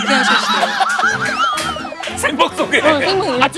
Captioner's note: laughing out loud